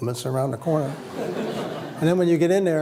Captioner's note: laughter